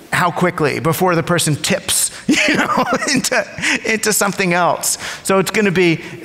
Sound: laughs

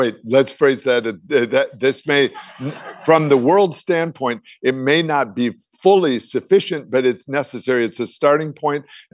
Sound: laughter

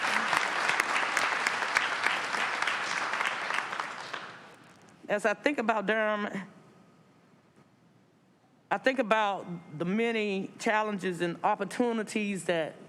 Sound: applause

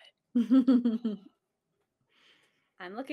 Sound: chuckles

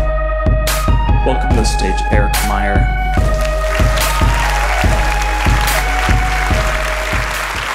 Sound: applause and cheers

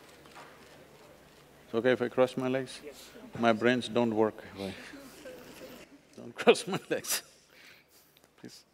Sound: laughs

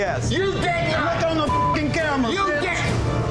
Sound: beep

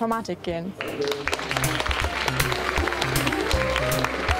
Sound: applause

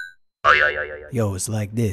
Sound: boing

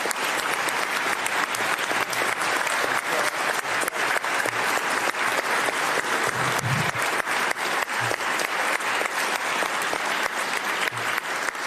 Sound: applause

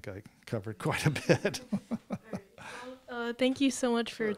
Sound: chuckles

